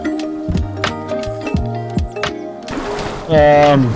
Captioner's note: water splashing